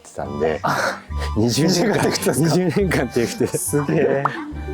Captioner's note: laughs